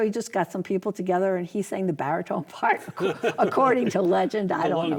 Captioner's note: laughs